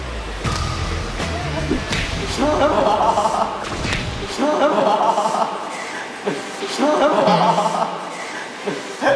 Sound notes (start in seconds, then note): 0.4 clap